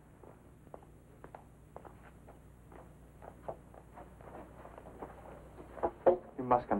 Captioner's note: footsteps outside